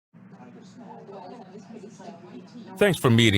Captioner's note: dishes clinking, background chatting